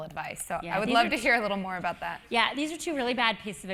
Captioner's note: laugh